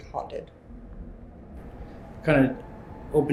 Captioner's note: unsettling Atmospheric Noise